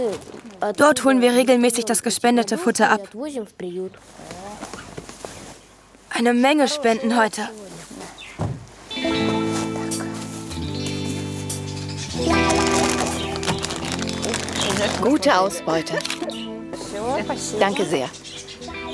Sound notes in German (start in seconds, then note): 15.9 Lachen